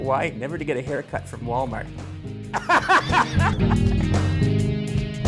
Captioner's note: laughs